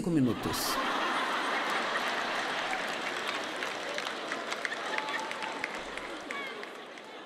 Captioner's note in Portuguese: público rindo